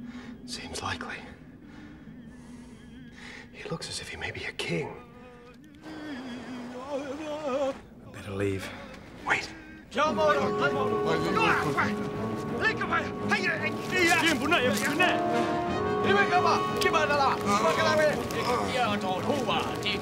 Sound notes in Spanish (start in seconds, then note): 10.2 discurso en otro idioma